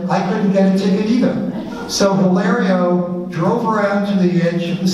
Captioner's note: audience laughs